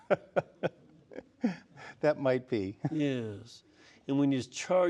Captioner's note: laughs